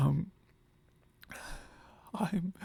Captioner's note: breathes shakily